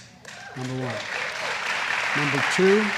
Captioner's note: applause